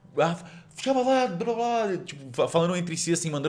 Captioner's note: people talking